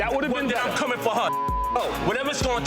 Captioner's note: beep